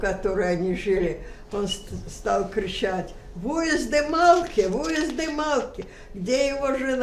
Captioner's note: hebrew